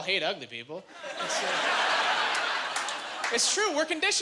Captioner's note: laughing